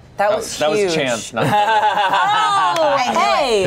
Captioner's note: everyone laughs